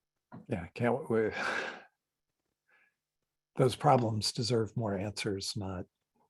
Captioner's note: sighs